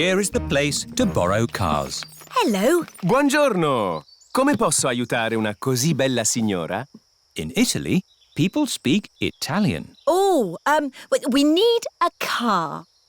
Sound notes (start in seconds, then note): 4.4 speaks italian